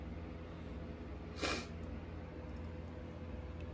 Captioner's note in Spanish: se aclara la nariz